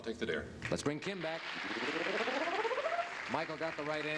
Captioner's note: applause